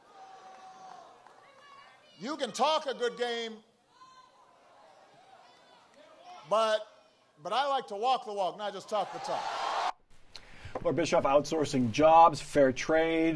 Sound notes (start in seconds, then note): 7.6 cheers